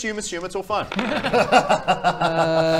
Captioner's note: reckless laughs